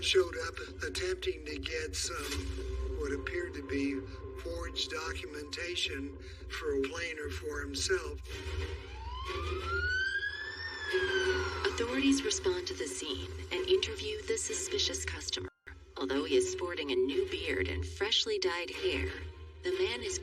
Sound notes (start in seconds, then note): 8.3 police siren blarining